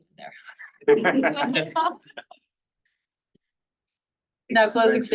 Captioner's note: laughter